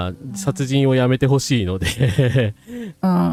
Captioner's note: laughter